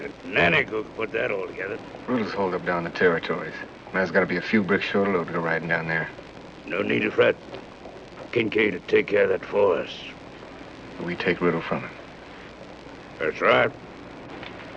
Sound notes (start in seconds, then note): none